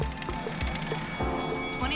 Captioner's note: bell rings